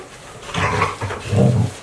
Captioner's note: dog grunting